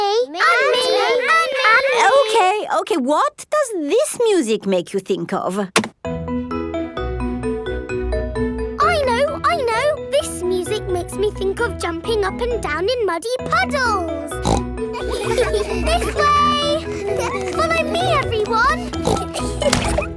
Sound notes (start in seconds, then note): 6.5 gentle upbeat playing; 14.3 snorts; 14.9 giggles; 19.5 snorts